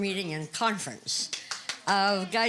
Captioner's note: applause